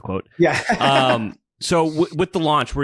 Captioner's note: laughs